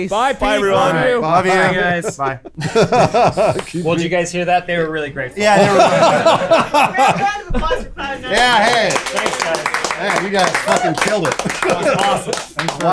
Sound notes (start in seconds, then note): 6.2 laughing; 8.3 applause